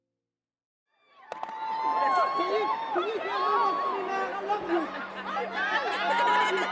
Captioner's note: crowd cheers